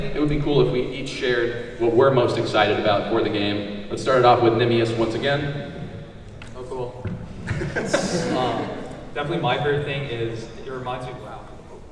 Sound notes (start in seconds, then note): 7.4 laughs